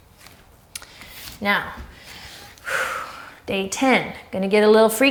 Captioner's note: deep breath